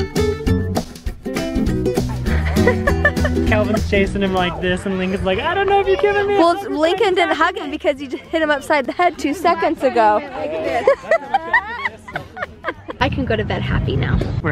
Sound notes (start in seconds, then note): 2.2 chuckling; 10.4 laughs